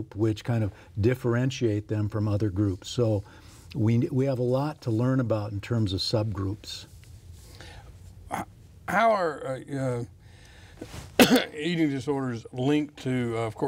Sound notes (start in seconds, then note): 11.1 coughs